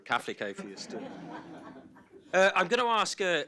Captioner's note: audience laughs